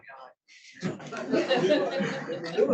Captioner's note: attendees laughing; laughs; laughing